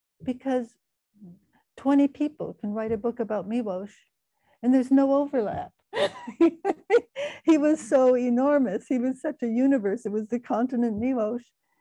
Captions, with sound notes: because 20 people can write a book about Miłosz and there's no overlap (laughing). He was so enormous. He was such a universe. He was the continent, Miłosz.